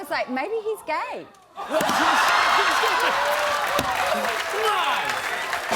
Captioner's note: laughter, cheering, and applause